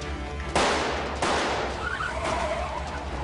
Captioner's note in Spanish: Disparos; Chirrido de gomas